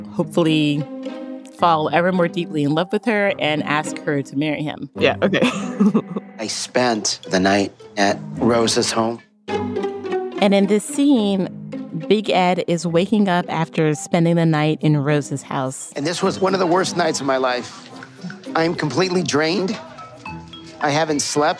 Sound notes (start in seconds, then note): 5.1 laughs